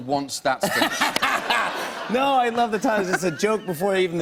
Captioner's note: laughter